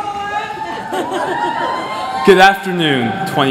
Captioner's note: cheering